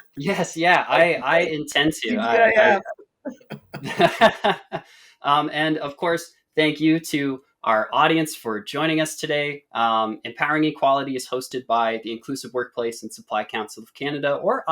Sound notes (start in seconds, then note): 0.1 laughs; 3.2 both laughing